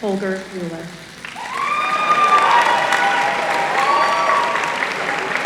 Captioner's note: applause